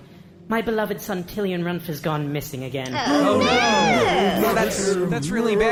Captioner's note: other councilors make dismayed noises